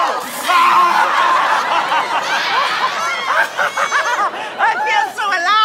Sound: screaming

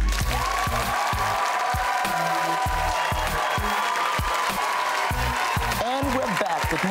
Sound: audience applauding; upbeat music

